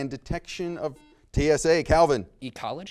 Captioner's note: buzzer beeps